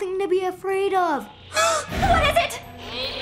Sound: gasps

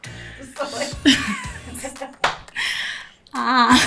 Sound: laughing

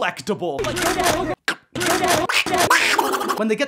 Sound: series of clack-chrunches and biting sounds

